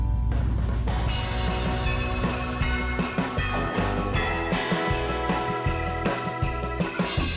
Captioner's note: bright upbeat music; bells chiming